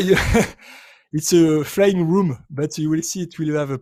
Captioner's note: laughs